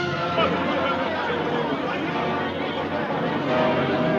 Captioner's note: villagers shouting